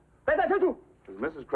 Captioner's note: shouts command